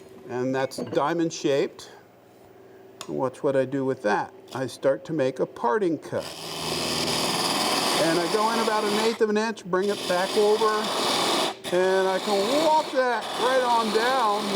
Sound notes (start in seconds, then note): 6.4 machine roaring